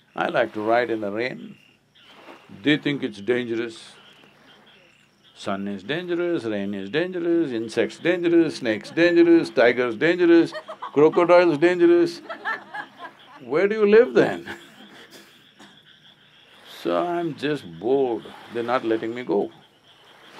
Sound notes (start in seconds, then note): 8.3 laughter